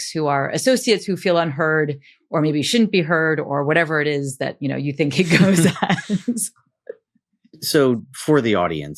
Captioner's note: laughs